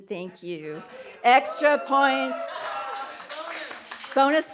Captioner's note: audience cheering